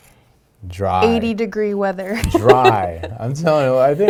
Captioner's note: laughing